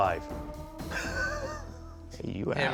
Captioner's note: chuckle